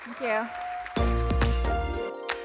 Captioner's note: applause